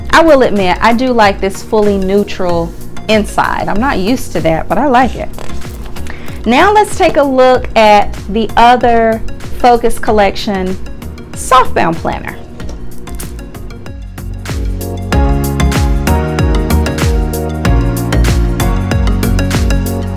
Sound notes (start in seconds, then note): 12.9 calm upbeat music; 12.9 hands clapping rhythmically